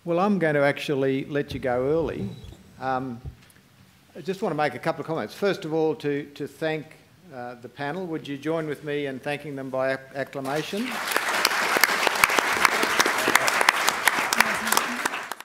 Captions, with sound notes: Well, I'm going to actually let you go early. I just want make a couple of comments. First of all, to thank the panel. Would you join with me in thanking them via acclamation? [APPLAUSE]